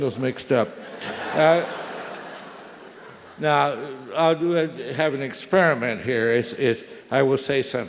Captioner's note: laugh